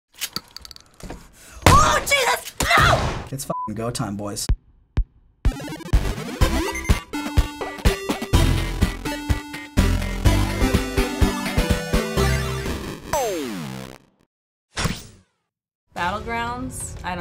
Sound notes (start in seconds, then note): 1.4 gun firing; 5.4 upbeat video game music